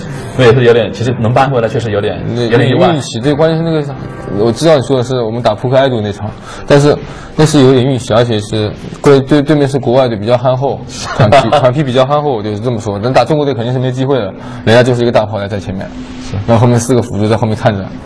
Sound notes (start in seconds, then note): 10.9 laughs